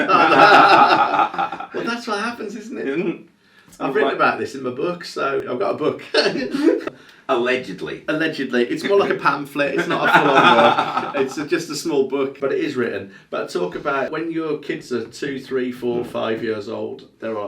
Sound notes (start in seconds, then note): 0.0 laughing; 6.0 chuckles; 9.7 laughing